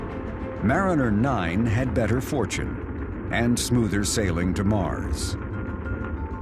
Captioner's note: dramatic music; rocket engine fires up